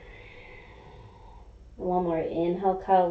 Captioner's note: inhaling